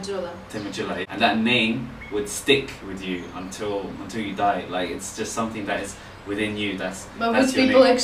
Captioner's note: speaks Somali word